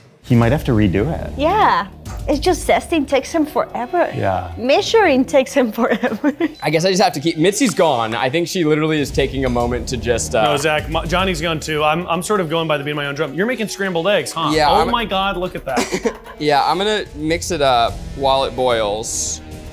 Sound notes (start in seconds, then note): 6.3 laughs; 16.2 laughs